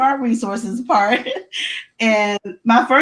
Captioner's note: laughs